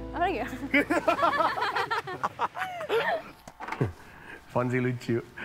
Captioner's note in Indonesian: Ketawa